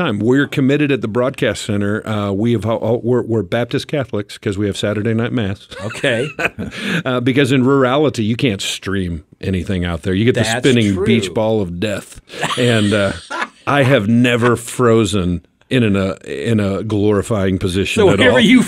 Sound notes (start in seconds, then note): 5.7 chuckles; 12.3 group laughs